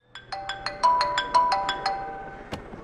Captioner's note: mobile rings